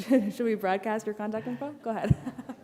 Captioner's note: laughter